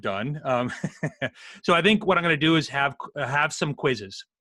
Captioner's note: laughs